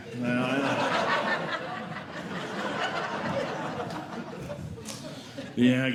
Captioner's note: audience Laughing